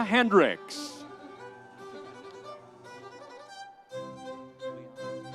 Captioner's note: audience cheering